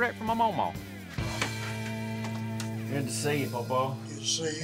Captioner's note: taps leg